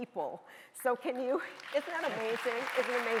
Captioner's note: audience applauding